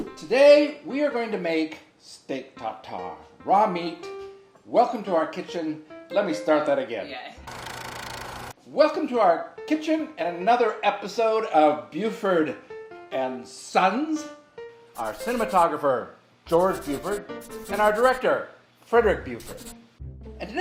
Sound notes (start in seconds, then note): 7.5 camera whirring